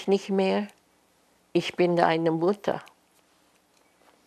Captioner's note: german